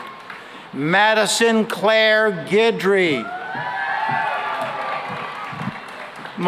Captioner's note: cheering and applause